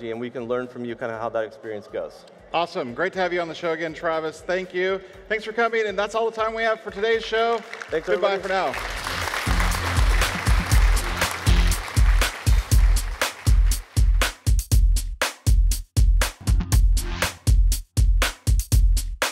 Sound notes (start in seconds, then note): 9.4 audience applauds; 9.4 upbeat music